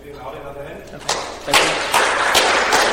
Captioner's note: applause